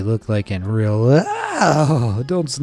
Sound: narrator screams

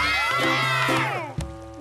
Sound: shouting

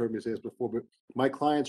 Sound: speaking faintly

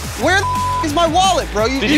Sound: beep

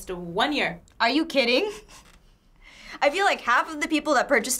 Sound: chuckles

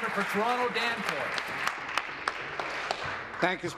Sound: applause

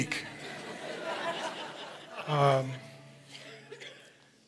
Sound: audience laughing

